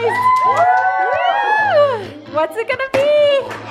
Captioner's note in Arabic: هتاف